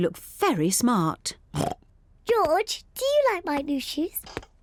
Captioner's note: oinks